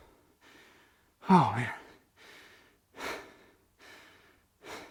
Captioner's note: out of breath